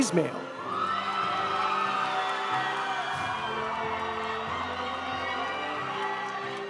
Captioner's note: audience applauding; audience cheering